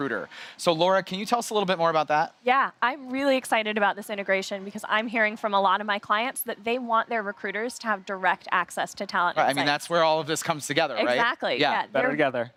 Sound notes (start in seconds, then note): none